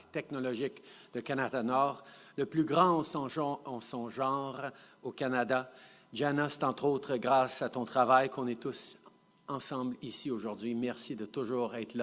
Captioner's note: speaking French